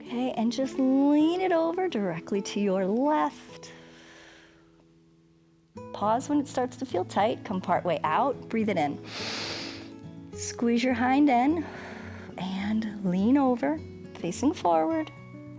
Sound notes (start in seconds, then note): 9.0 inhales